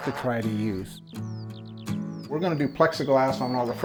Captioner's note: birds chirping and chittering